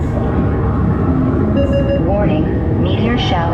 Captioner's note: beeps